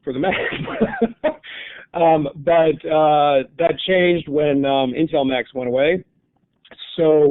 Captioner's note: laughing